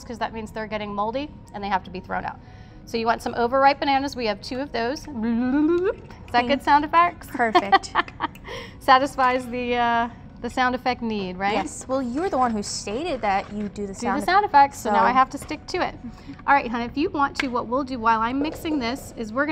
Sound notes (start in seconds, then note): 5.1 bloop, bloop, bloop